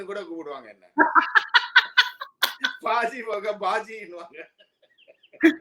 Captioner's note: laughs